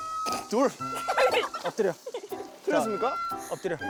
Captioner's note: laughing; laughs